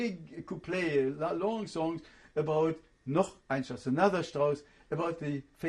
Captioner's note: german